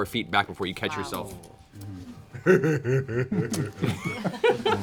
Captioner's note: laughter